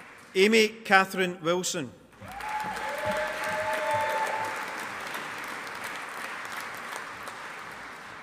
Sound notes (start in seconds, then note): 2.2 audience applauding